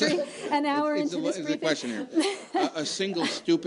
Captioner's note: laughter